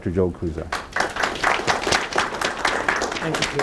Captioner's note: applause